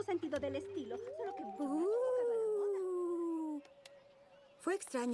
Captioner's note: ghostly sound